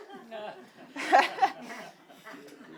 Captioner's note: audience laughing; laughs